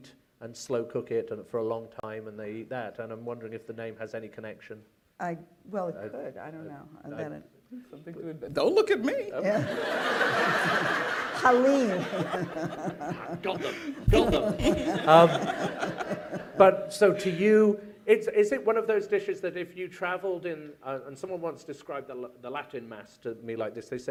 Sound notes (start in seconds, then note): 10.2 laughter; 14.8 laughter